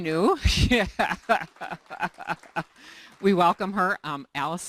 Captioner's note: laughter, applause